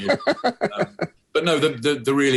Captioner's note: laughing